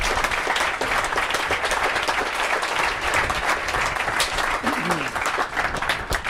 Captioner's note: applause